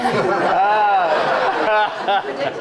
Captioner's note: laughter